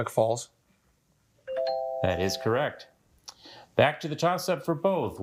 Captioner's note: bell dings